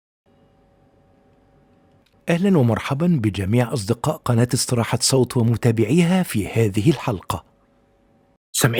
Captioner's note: arabic VO